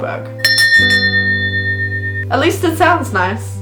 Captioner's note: bell rings